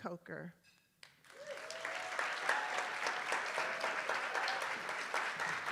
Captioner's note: attendees applauding